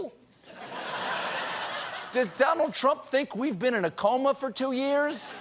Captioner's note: laughter